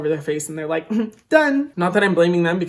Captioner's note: chuckling